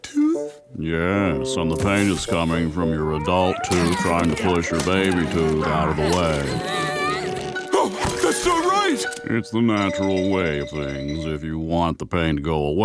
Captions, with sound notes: Yes, and the pain is coming from your adult tooth trying to push your baby tooth out of the way. [grunting] [gasping] That's not right! It's the natural way of things. If you want the pain to go away,